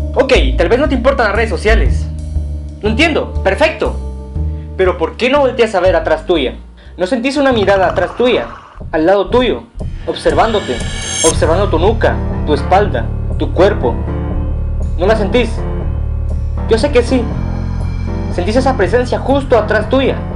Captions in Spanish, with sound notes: okey tal vez te importan las redes sociales Lo entiendo, perfecto, ¿Pero porque no volteas a ver atras tuya? No sentís una mirada atrás tuya (sonido aterrador) Al lado tuyo (sonido de corazón palpitando) observandote observando tu nuca tu espalda tu cuerpo ¿no la sentís? Yo sé que sí sentís esa presencia justo atras tuya